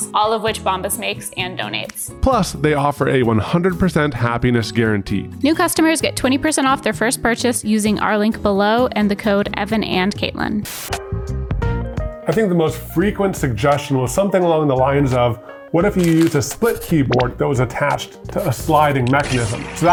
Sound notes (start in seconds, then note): 10.6 static noise hiss; 10.8 gentle jazz music